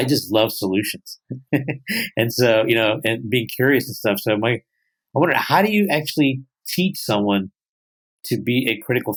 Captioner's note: chuckles